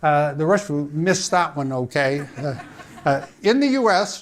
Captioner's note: audience laughing